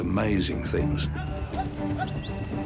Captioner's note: man shouting and whistling